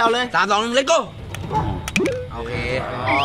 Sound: hitting

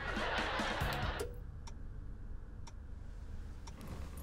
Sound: TV turns off

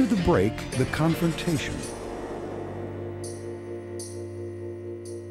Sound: dramatic sound

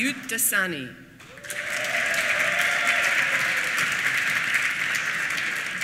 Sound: applause

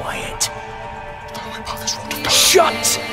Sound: praying quietly

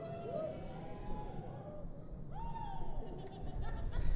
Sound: cheering and Laughter

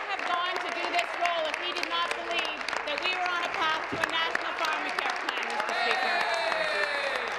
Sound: applause

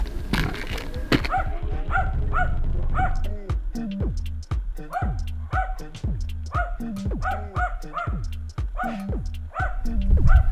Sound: the dog is barking

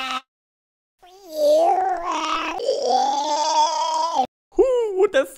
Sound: gargling

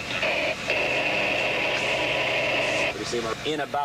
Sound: radio static

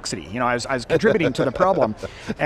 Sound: laughing

